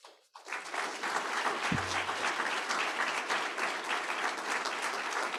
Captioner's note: audience applauding